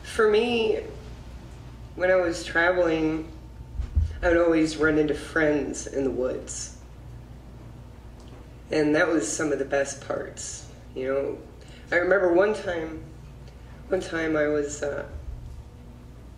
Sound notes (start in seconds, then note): none